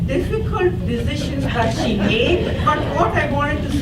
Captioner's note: audience laughs